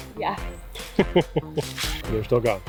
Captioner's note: laughing